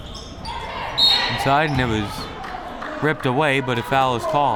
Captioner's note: whistle